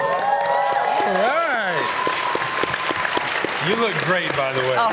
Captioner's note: cheers and Applause